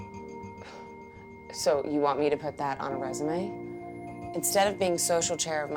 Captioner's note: scoffs